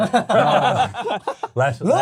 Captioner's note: laughing